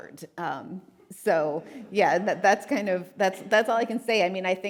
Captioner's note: audience laughing